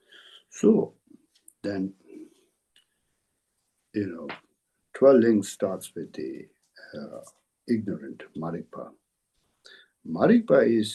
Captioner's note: tibetan